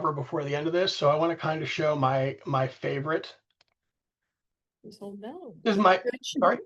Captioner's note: background talking